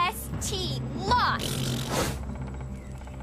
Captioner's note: Katie Blows Raspberry